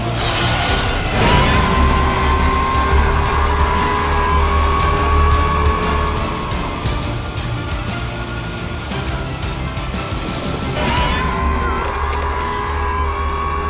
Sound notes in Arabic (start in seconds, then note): 0.0 زئير العقرب